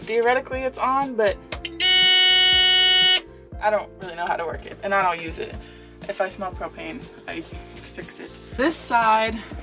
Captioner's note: beep